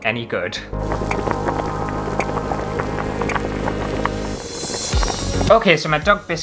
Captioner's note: cooking Sounds